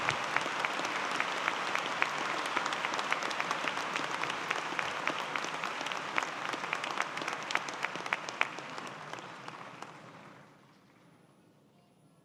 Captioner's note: applause